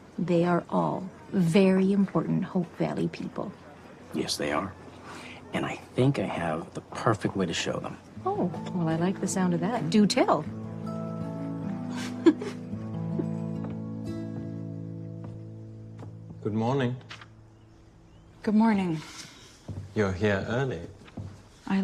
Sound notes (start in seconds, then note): 11.8 giggles